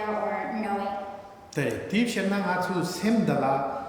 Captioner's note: speaking tibetan